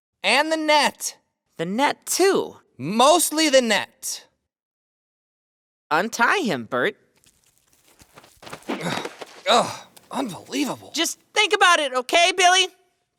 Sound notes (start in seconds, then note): 8.6 groaning